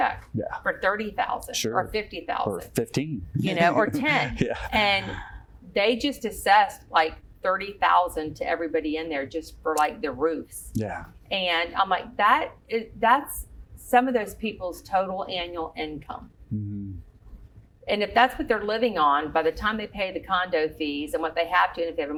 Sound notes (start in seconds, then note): 3.5 giggle